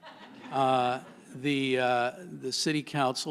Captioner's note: laughter